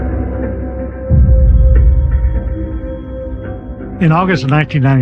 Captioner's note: phone ringing